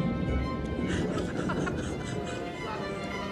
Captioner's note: <i> thunder rumbles</i>